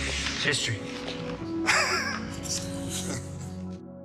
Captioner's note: they both laugh